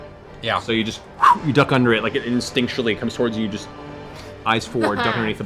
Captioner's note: whoosh